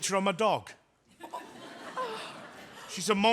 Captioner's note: audience laughs